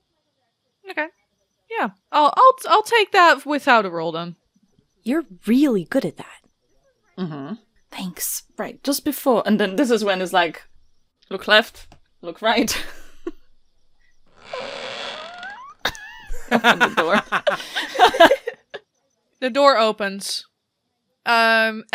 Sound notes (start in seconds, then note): 8.3 whispering; 12.4 mimics a door creaking open; 13.9 door creaks open; 15.8 laughter